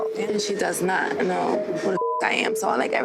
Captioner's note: beep